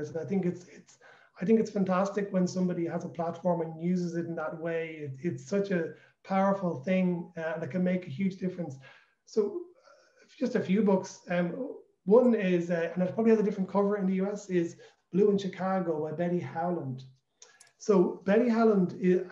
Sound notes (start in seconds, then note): none